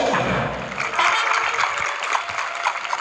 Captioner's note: audience applauding